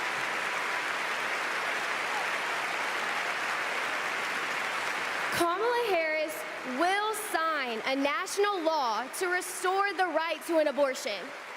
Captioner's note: applause